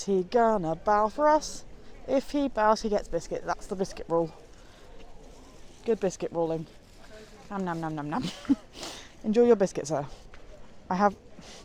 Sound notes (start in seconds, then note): 8.2 laughs